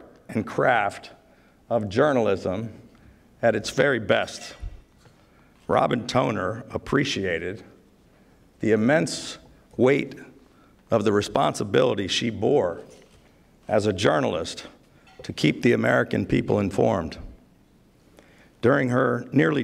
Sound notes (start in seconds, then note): none